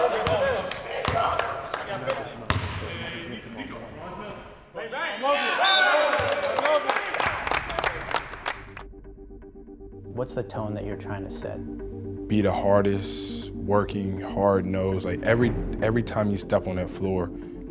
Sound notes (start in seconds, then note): 0.6 chattering and clapping; 5.6 whistling; 6.1 clapping; 8.7 determined electronic music